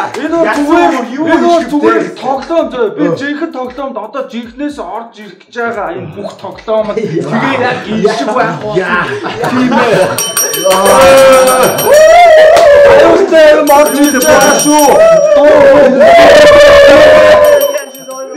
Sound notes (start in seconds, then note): 10.7 wooh